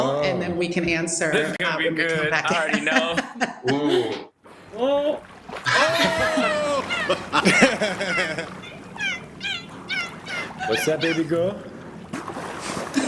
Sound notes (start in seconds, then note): 5.6 laughter; 5.7 dolphin chirping